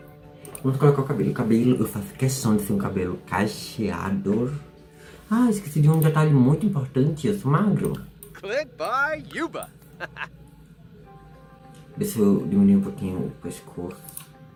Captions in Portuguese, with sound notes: Vamos colocar o cabelo! O cabelo eu faço questão de ser um cabelo cacheado! Ah! Eu esqueci de um detalhe muito importante, eu sou magro! (Fala Simlish) Deixa eu diminuir um pouquinho o pescoço...